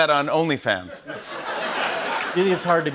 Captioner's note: laughter